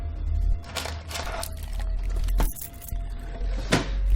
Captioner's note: clinking sound